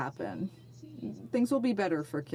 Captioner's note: speaking in French